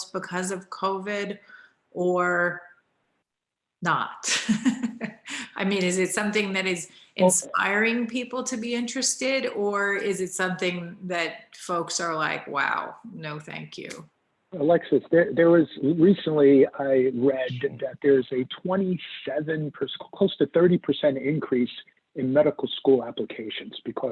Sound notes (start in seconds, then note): 4.6 laughs